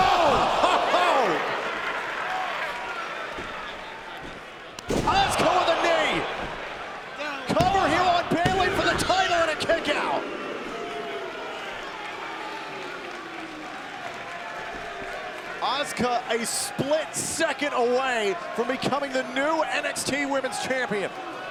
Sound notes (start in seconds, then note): 10.4 crowd boos